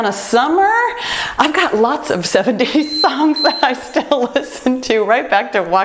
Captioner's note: timer beeps